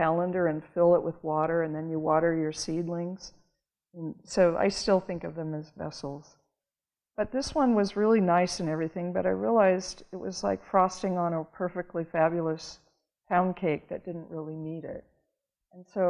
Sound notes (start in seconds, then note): none